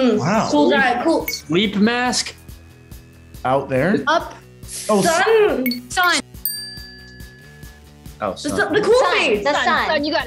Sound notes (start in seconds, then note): 5.6 timer dings; 8.5 group mumbling in unison